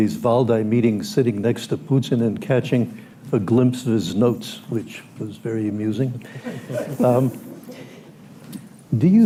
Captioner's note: laughter